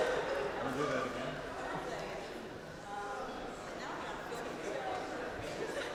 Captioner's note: professors continue chattering